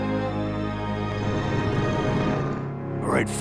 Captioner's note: Enderman growls lowly